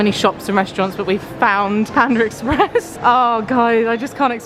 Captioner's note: laughs